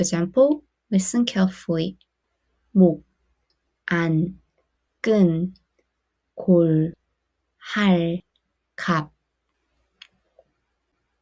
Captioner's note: foreign language